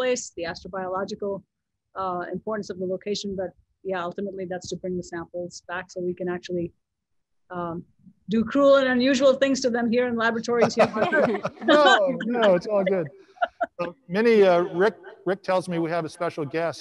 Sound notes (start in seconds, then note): 10.6 panelists laughing